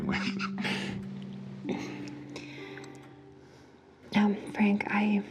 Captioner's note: both laughing